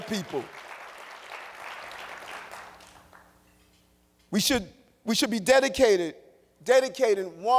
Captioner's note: applause